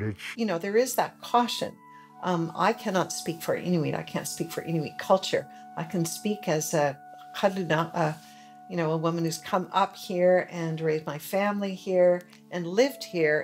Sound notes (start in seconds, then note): 6.6 speaks foreign language